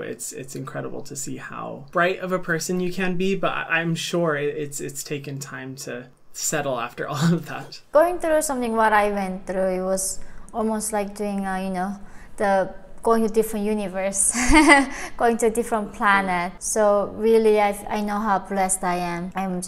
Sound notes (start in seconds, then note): 14.3 chuckles